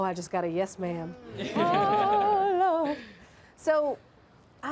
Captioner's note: laughs